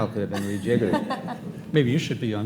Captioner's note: laughing